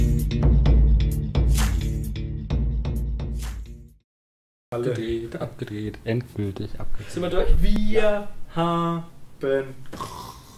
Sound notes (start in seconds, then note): 9.9 snore